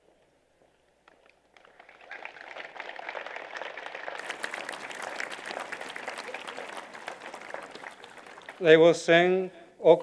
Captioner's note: applause